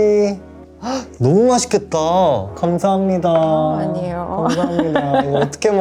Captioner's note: speaking in Korean